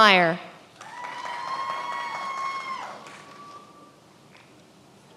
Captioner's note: many applauding